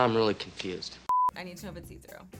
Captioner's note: screen beeps